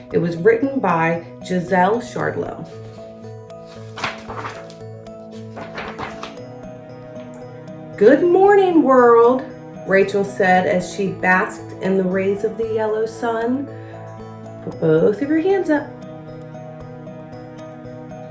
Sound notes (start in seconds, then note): 3.6 page shuffles